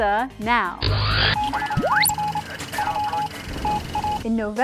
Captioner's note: sound Effects